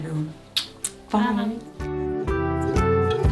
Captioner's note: smooch; upbeat music